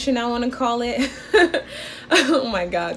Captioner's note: laughing